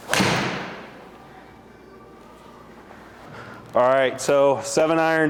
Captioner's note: golf club hits ball